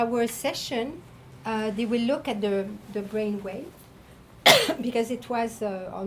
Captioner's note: coughing